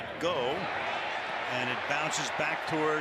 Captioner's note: cheering